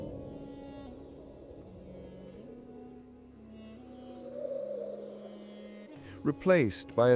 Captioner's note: howling